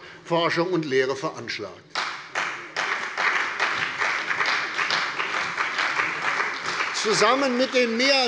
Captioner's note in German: Beifall bei der CDU und dem BÜNDNIS 90/DIE GRÜNEN